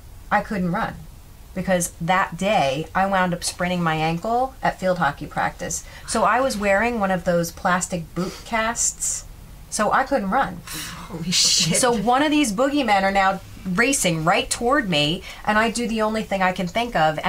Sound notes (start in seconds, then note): 10.9 laughing